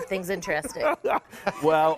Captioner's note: laughing